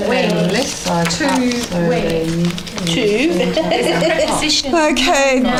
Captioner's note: audience chatter